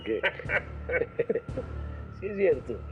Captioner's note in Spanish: Risas